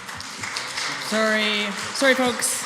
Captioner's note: applause